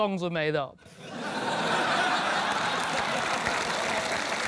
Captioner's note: laughter